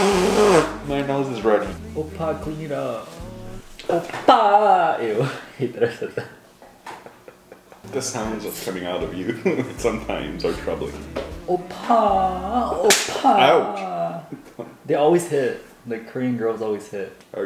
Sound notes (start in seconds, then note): 0.0 nose buzzing; 6.8 chuckles; 6.9 laughing; 12.8 smacking; 14.3 chuckles